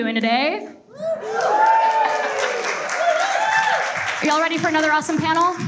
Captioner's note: audience cheers and applauds